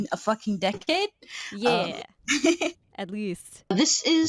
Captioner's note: laughing